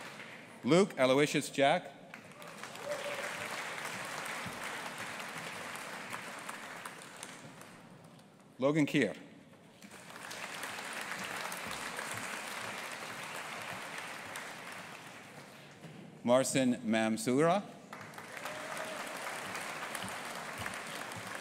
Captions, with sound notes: Luke Aloysius Jack. (AUDIENCE APPLAUDING) Logan Keir. (AUDIENCE APPLAUDING) Marcin Mamczura. (AUDIENCE APPLAUDING)